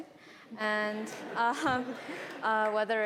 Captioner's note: audience laughs